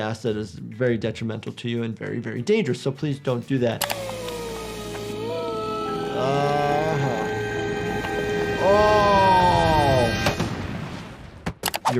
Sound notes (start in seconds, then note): 4.0 Marge woozing; 10.2 body crashing